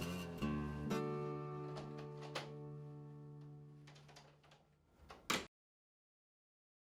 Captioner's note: sound of door opening and closing